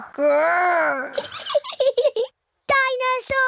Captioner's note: giggles